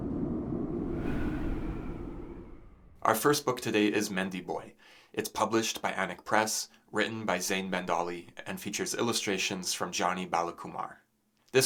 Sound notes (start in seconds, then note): 2.9 winter wind blows